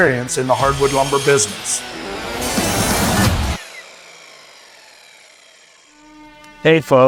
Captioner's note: upbeat rock music continues; machine whirring